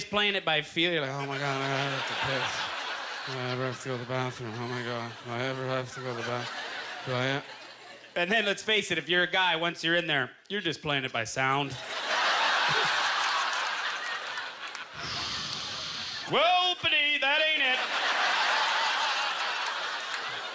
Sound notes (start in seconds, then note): 0.5 mumbling; 11.7 audience laughter; 14.9 whooshing; 17.5 audience laughter